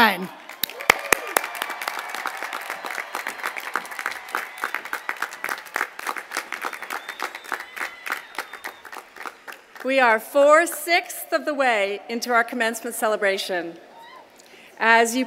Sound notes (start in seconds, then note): 4.2 applause